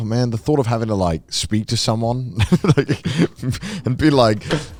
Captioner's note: laughs